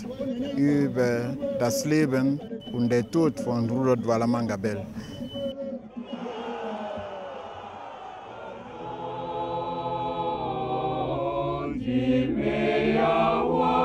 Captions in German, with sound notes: über das Leben und den Tod von Rudolf Duala Manga Bell. *lautes Rufen* *Chor singt*